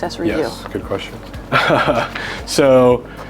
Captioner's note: laughs